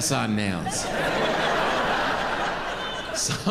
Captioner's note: audience laughing